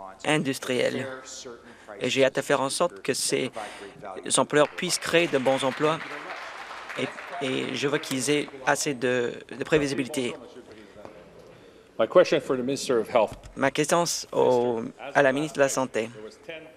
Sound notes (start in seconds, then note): 9.6 some Applause